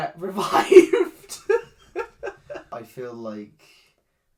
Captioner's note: laughs